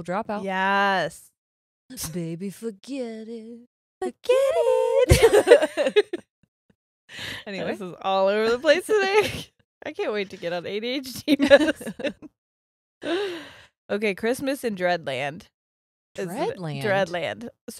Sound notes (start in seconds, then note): 6.7 both laughing